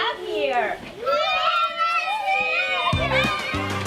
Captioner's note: children cheer